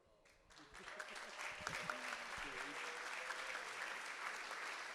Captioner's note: audience applauding